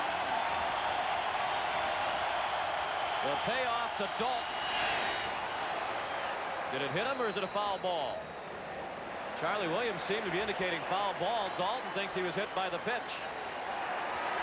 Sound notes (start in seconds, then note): 3.4 applause; 3.8 cheering and Applause